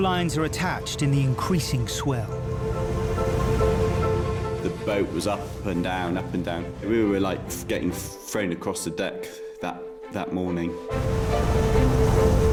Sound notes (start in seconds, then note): 3.3 dramatic music; 4.3 waves crashing; 9.4 dramatic music